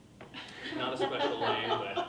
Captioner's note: people laughing